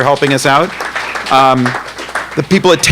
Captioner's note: audience applauding